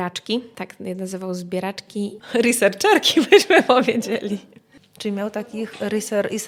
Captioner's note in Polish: śmiech